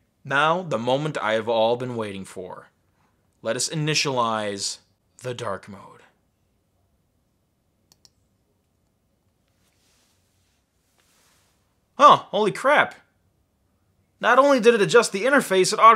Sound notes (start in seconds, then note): 7.8 clicking